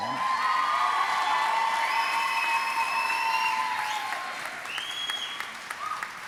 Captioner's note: audience applauding and cheering